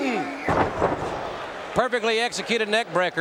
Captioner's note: wrestlers thudding